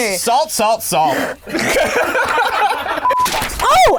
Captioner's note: laughing